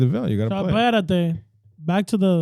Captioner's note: speaking In Foreign Language